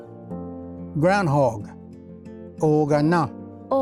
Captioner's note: repeats in Cherokee